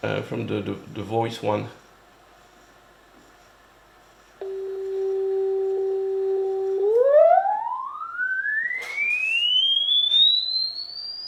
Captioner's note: sound of recorded generator signal